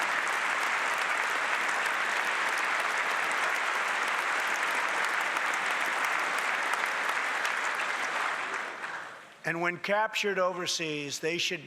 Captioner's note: applause